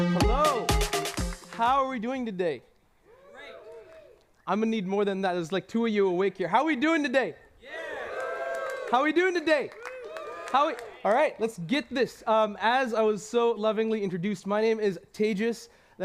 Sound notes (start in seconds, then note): 7.6 cheers